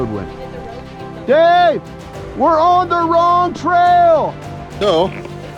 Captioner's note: shouting